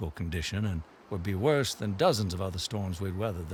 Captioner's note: water gushing